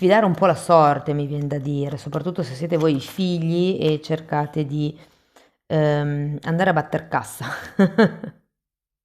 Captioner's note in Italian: risate